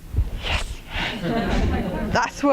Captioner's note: laughter